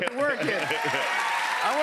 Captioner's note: cheers and applause